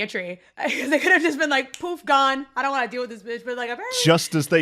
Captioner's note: laughing; snaps fingers; poof